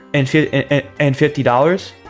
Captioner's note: stutter Moment